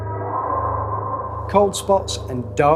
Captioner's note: ghostly noise